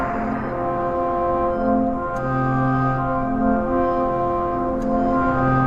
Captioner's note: heart rate monitor beeps